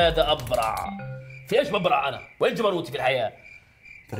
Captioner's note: crickets chirping